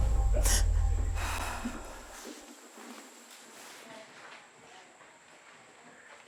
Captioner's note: crying